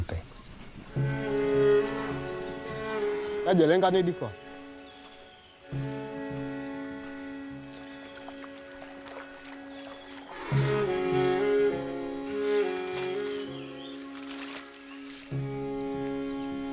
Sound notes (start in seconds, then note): 1.0 classical instrumental music; 3.7 foreign language